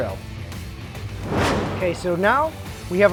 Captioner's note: whoosh